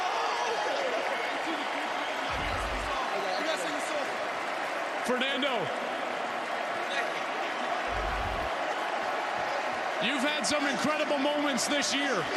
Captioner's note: cheers and applause